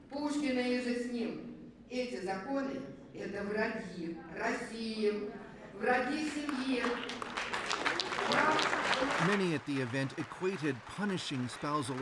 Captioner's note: speaking russian